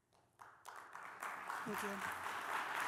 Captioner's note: applause